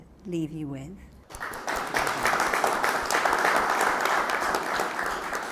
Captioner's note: audience applause